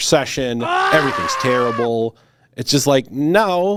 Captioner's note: person screams